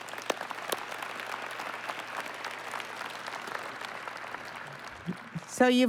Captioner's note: applause